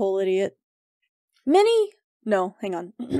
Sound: clears throat

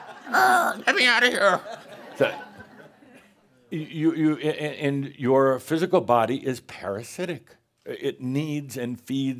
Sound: Adamus uses a squeaky voice and more chuckles

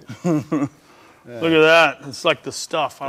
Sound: laughing

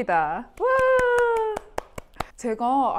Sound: clap clap

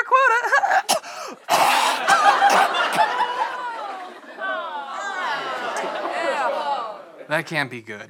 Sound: coughs violently

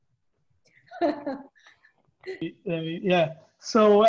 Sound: chuckles

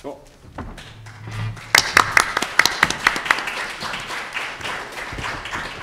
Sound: audience applauding

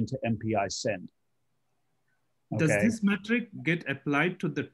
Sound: calm Voice

